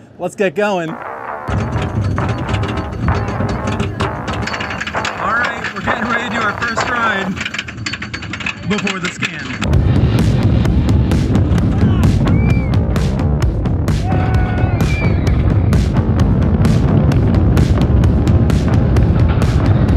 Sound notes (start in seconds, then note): 0.8 upbeat music; 1.5 metal clicking; 10.4 upbeat music; 14.0 riders screaming; 15.6 coaster rumbling